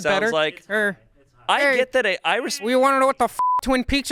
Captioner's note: beep